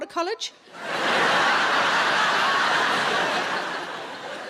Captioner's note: crowd laughing